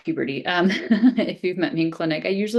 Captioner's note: chuckles